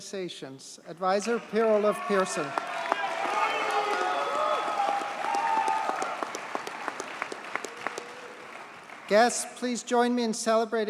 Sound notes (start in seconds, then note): 2.9 audience cheers and applauds